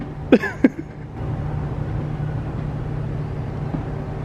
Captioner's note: laughs